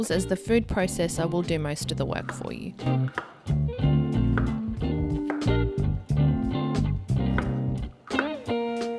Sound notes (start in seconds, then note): 2.9 knife clicks; 5.2 upbeat music